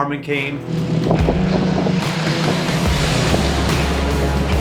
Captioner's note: truck rumbling